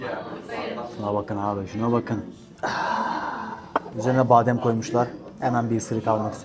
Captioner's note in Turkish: iç çeker